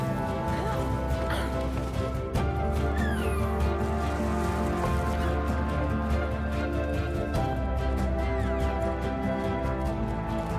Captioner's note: climbing gear rustling